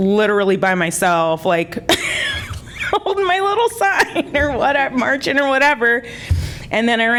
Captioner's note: laughter